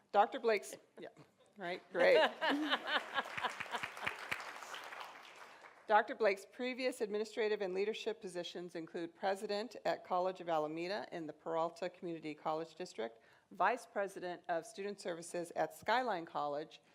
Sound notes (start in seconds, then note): 2.5 applause